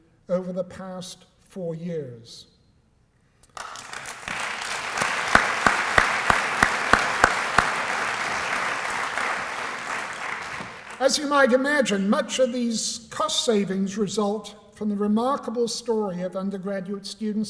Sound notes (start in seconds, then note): 3.4 applause